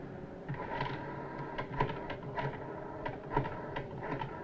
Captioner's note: phone dial clicking